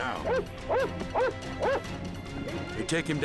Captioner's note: dog barking